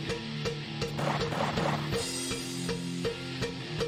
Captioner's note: gunfire